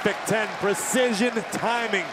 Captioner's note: crowd cheering